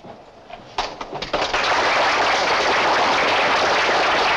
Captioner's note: applause